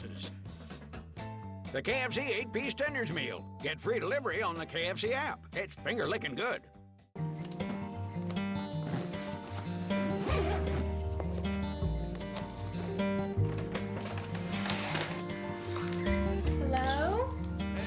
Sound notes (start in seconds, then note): 7.1 upbeat, acoustic guitar; 11.3 zipper closing bag; 15.9 bag rattling